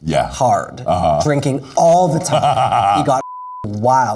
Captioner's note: laughs